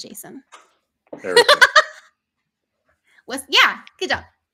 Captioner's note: laughing